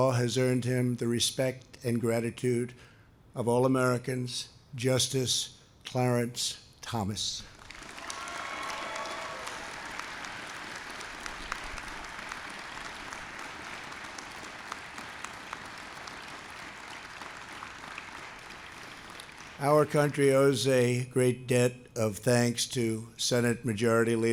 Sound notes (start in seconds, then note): 7.5 applause